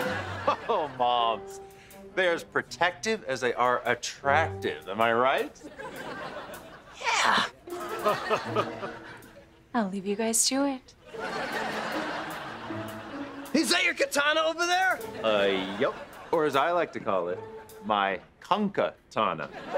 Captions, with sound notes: Oh oh, Moms. They are as protective as they are attractive. Am I right? Yeah. [laughing] I'll leave you guys to it. Is that your katana over there? Yep. Or as I like to call it, My Conca Tana.